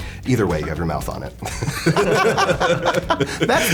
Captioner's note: laughs